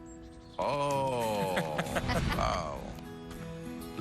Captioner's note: laughter